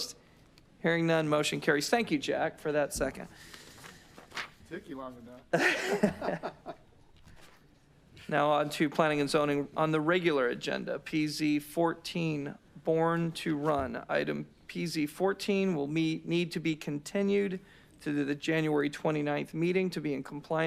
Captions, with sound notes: >> I THOUGHT WE GOT A SECOND, NO? >> SECOND APPEARANCE AN NOW WE DO. [ LAUGHTER ] WE HAVE A MOTION AND A SECOND. THANK YOU, JACK FOR THAT SECOND. >> TOOK YOU LONG ENOUGH. >> NOW WANT TO PLANNING AND ZONING ON THE REGULAR AGENDA PZ